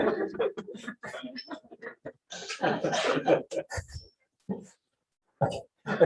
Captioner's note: audience laughs